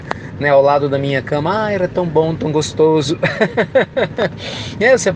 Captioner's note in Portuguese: risos